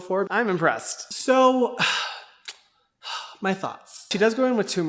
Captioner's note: sighs